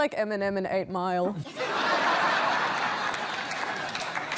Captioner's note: laughter